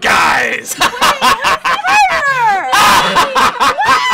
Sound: evil laughing; evil laughing continues

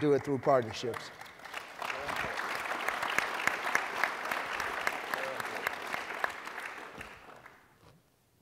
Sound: applause

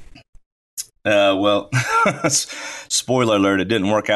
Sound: laughs

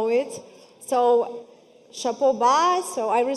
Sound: speaking foreign language

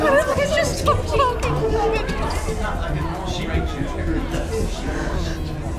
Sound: customers chattering excitedly

